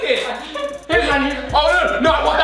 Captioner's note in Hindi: हंसते हुए